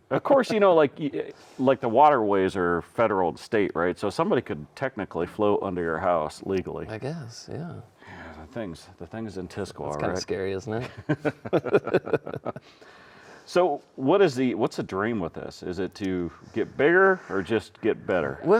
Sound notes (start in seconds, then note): 10.8 both chuckling